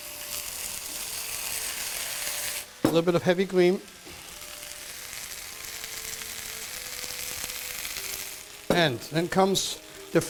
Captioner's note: sizzling